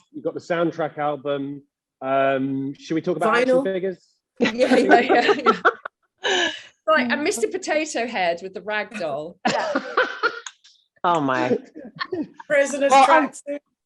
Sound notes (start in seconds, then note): 4.4 all laughing; 9.4 laughs